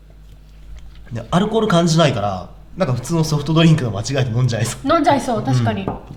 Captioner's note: laughs